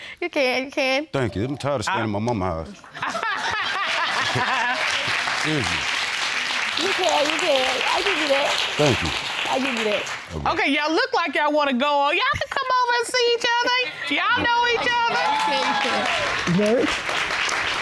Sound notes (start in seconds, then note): 2.9 audience laughing and applauding